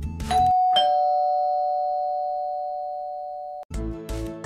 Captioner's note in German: klingel